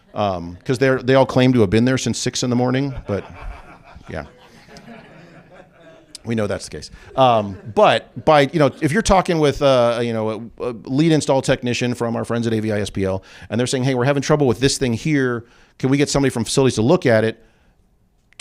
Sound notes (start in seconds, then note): 2.8 laughter